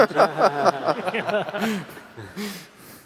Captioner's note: laughter